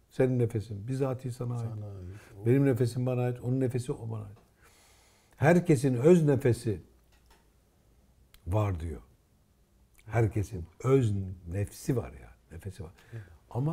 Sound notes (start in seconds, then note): 8.5 breath